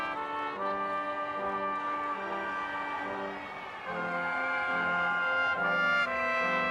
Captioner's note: crowd cheering